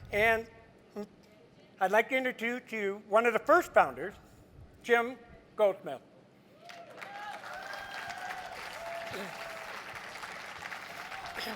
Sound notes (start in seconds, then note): 6.6 crowd cheers